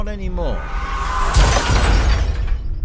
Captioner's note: car horn; they crash